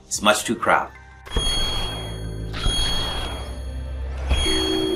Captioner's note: digital chiming